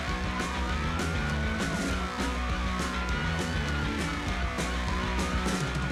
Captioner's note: police siren